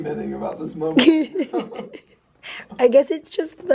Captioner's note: laughing